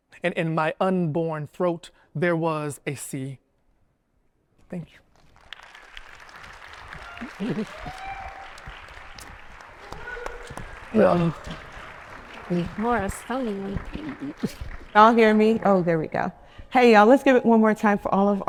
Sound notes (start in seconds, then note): 6.3 attendees applauding